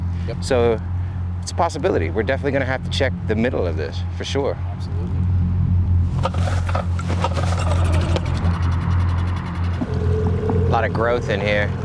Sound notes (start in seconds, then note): 6.0 rope scraping; 8.6 boat engine roaring